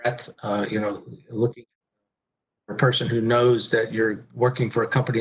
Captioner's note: murmurs